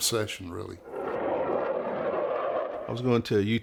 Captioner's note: distant jet engine